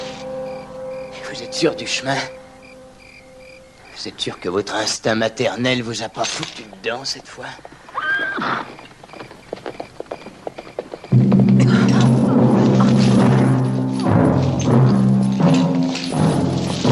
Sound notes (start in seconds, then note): 7.6 horse Whinnies, Galloping